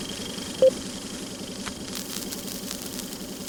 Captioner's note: beeping